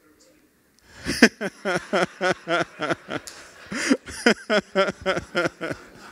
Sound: laughter

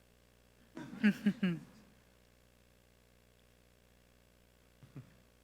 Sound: speaker chuckles

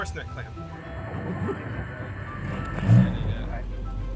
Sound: wind whooshing

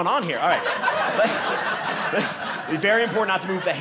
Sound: audience laughing

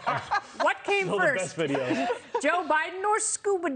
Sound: laughter

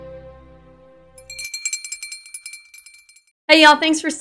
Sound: bell ringing

